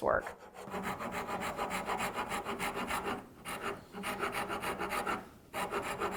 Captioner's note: rasp scratches against wood